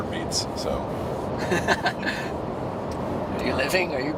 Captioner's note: laughter